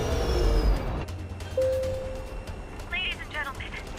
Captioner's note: engines power down; bell dings